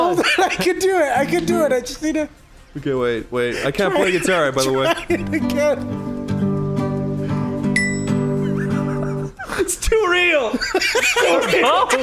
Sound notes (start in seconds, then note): 4.9 wheeze; 8.2 giggle